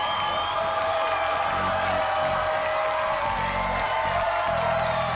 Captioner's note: cheers and applause